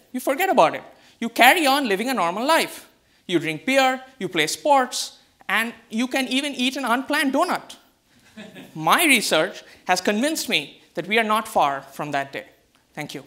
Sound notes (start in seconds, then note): 8.3 audience laughs